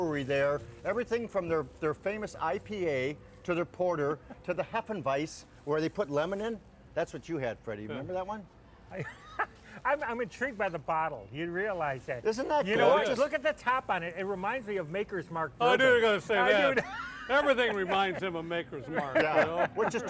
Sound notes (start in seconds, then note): 9.0 laughing; 16.4 laughing